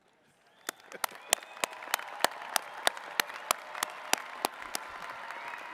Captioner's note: attendees clapping and cheering